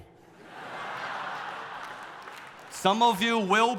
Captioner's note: audience laughing